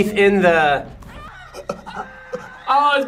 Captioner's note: gasps